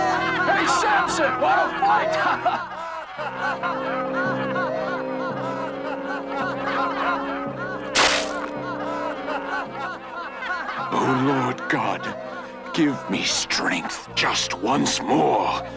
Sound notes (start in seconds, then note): 0.2 riotous laughter; 7.9 Juice splashes on Samson